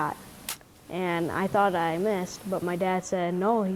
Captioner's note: bow popping